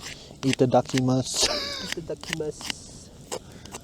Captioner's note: chuckles